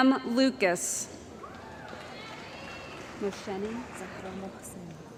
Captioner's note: cheering & Applause